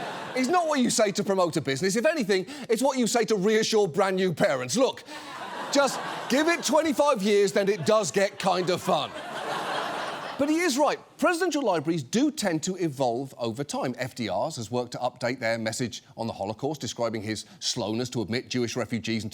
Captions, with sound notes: is not what you say to promote a business. If anything, it's what you say to reassure brand new parents. "Look, just give it 25 years, then it does get kind of fun." (AUDIENCE LAUGHS) But he is right. Presidential libraries do tend to evolve over time. FDR's has worked to update their message on the Holocaust, describing his slowness to admit Jewish refugees